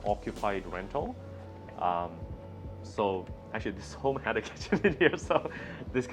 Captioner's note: laughing